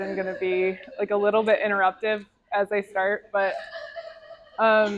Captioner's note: crying sounds from art video; crowd laughter